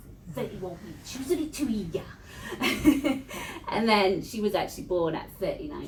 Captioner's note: laughs